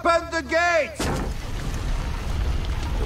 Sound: gate opens

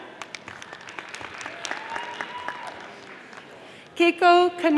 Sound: audience applauding

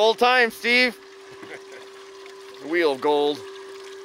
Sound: laughs

